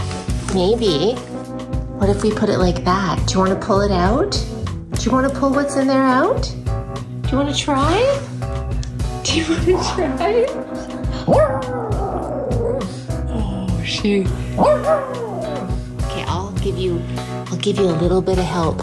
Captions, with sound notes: Maybe. What if we put it like that? Do you wanna pull it out? Do you wanna pull what's in there out? Do you wanna try? Do you wanna try? [dog howling] Oh, she - [dog howling] Okay, I'll give you a little bit of help.